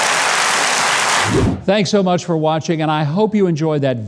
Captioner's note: audience applauding; air whooshing